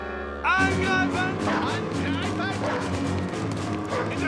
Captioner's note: speaking german; dog barking